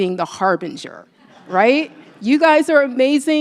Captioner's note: laughter